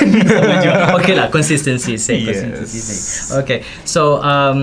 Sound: laugh

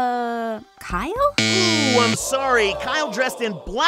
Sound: buzzer sound

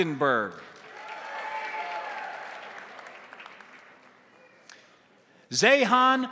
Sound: crowd applauding; crowd cheering

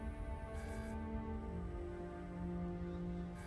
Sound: none

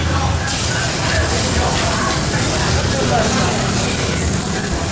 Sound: grilling meat hard

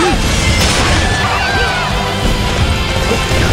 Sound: KO Scream

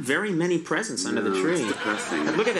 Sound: audience laughs

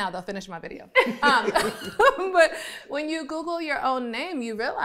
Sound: all laughing

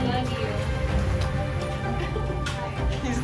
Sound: background music; water splashing sounds; background music; water splashing sounds

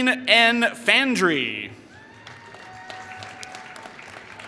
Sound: applause

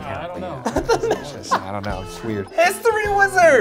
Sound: laughs

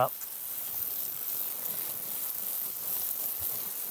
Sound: water spraying

